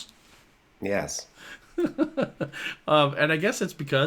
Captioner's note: laughs